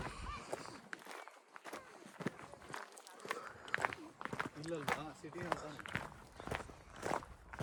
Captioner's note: walking